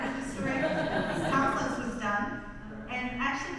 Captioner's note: audience laughs